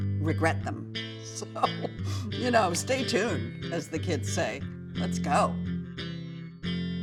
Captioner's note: laughs; soft guitar music